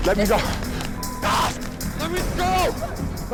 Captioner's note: screams